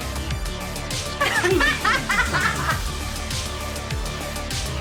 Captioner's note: both laughing; tense electronic music continues